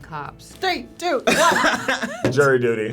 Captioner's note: laughs